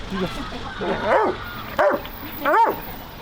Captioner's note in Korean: 왈! 왈!